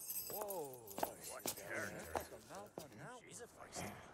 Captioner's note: soldiers mutter